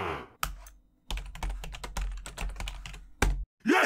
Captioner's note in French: Bruit de clavier